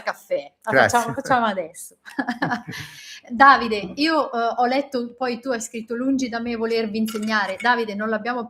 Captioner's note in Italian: risate